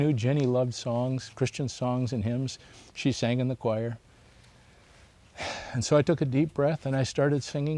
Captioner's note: sighs